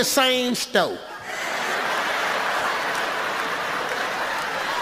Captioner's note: audience laughs